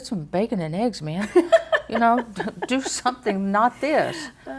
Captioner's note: laughs